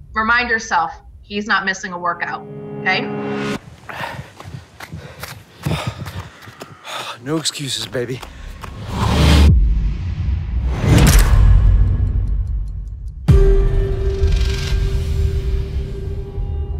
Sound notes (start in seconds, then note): 3.7 heavy breathing; 8.9 boom resounds; 9.0 clock ticking; 13.9 dramatic music